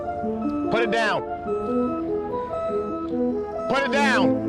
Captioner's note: machinery beeping